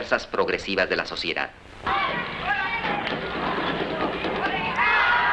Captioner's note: children playing